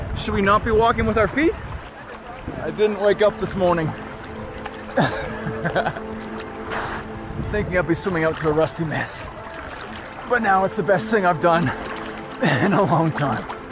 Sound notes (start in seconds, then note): 4.8 laughs